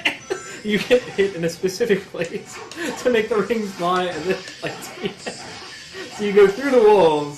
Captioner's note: chuckling